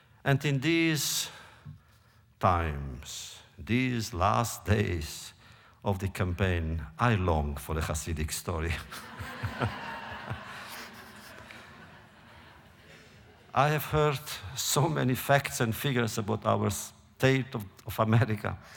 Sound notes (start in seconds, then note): 8.8 laughter